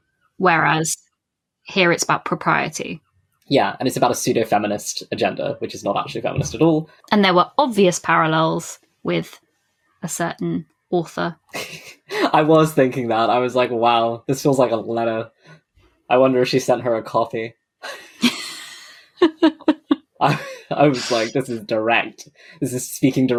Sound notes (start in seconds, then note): 17.9 laughs